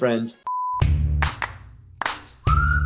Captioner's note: beeps